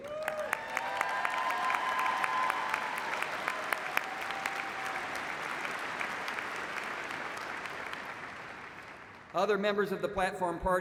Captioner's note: cheers and applause